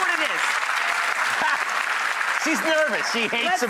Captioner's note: audience applauds